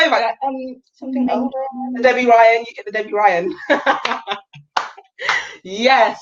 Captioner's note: laughing